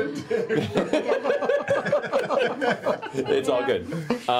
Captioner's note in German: Gelächter